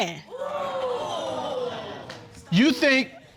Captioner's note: audience exclaiming